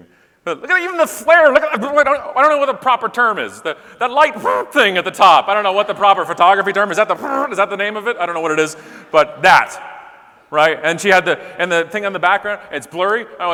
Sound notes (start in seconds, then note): 4.4 blowing raspberry; 7.1 blowing raspberry